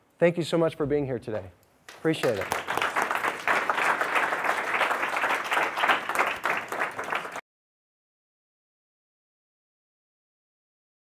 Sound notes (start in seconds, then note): 1.9 applause